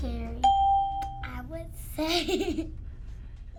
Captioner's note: ding; laughs